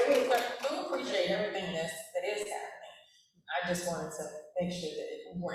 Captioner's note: applause